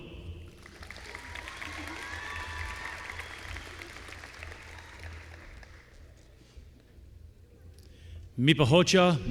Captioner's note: applause